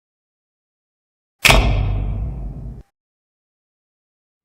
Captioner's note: old fashioned spotlight 'thunking' on